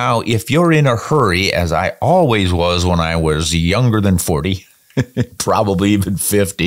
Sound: chuckles

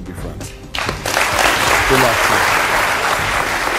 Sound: audience applauds

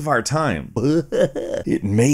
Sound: makes a silly noise

